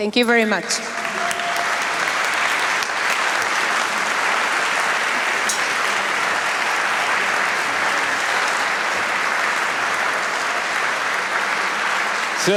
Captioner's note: applause